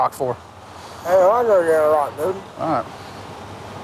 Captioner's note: slurring